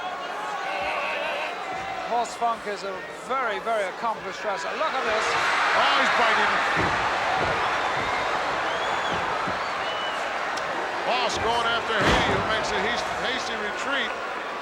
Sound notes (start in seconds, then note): 5.6 audience cheering